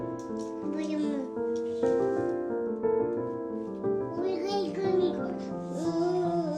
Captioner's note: child babbling